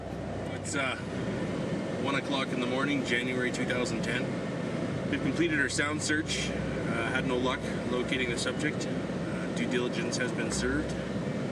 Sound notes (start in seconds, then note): 5.6 voiceover